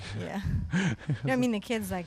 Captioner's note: chuckles